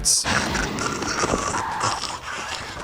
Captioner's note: gagging; bird caws